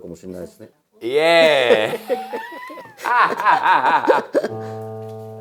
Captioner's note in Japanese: 笑い